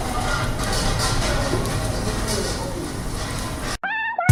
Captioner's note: sound of the drops on sheet metal